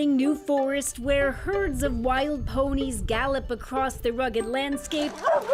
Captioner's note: barking